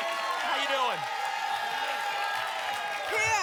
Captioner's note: applause and cheering cont